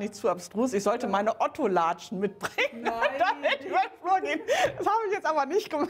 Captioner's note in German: lacht